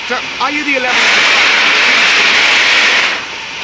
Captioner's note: steam hissing loudly